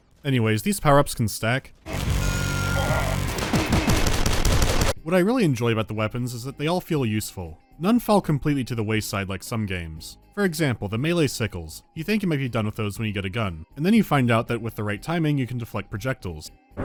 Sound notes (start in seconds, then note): 3.0 megafast gunshots